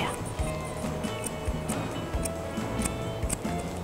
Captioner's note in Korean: 가위질 소리